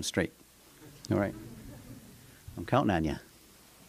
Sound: laughter

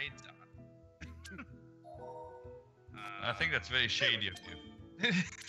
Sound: laugh

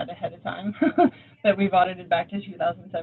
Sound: laughing

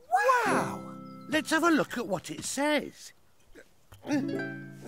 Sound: grunting

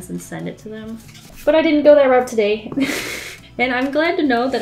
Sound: laughs

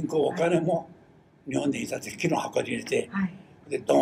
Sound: foreign language

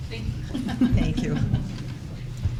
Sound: laughter

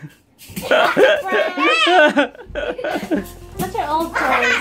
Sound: laughing

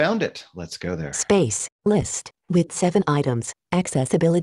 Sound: automated Voice

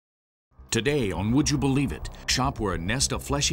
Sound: voiceover

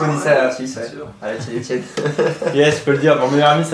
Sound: laughes

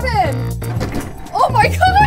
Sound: bookshelf rattling

